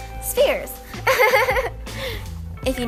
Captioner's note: demonic Laugh